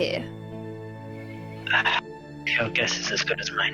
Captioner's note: sigh